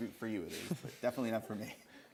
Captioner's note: giggles